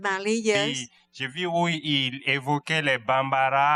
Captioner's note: speaking french